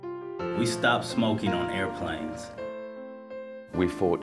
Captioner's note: voiceover